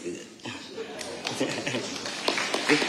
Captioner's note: audience applauding